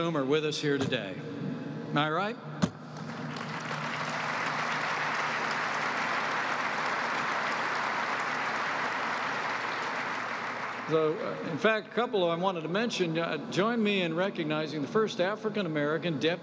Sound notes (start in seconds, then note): 8.2 applause